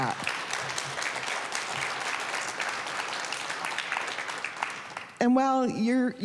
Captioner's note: applause